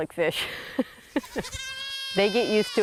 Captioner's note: chuckles; goat bleats